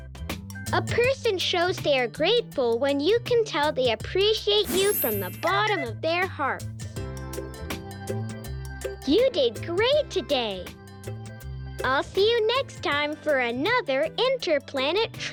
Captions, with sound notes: a person shows they are grateful when you can tell they appreciate you from the bottom of their hearts. (blinking sound) You did great today, I'll see you next time for another inter-planet trivia.